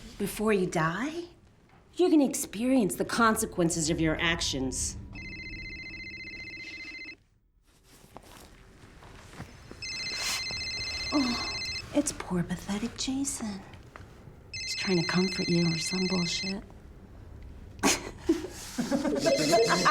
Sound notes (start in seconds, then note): 5.1 phone ringing; 17.8 laughing